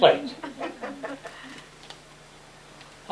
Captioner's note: laughter